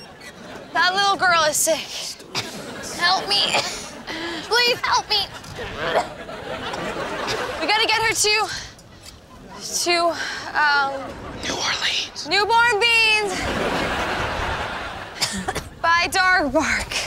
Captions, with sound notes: That little girl is sick. Help me. Please help me. [coughing] We gotta get her to... to, um- [whispering] New Orleans. Newborn beans... [coughing] by dog bark.